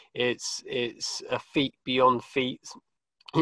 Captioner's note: laughs